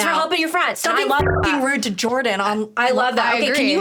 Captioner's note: buzzing